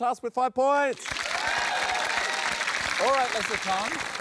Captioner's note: cheering, applause